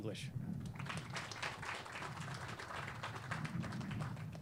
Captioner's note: clapping